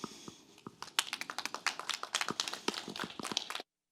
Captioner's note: applause